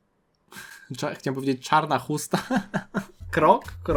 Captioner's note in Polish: śmiech